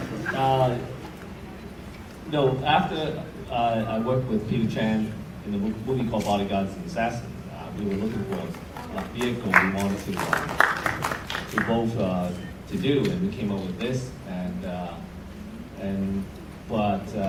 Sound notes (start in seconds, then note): 10.3 audience claps